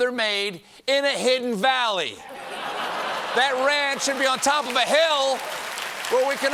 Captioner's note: laughter